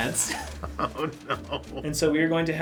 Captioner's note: chuckles